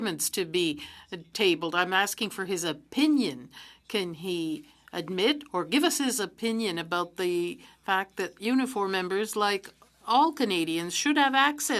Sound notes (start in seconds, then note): 6.1 speaking French